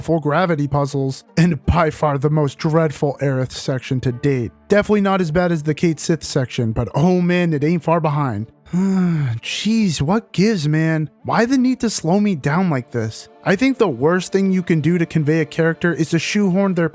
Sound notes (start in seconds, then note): 8.6 sigh